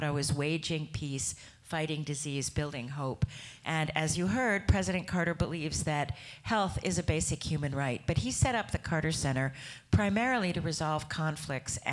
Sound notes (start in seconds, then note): none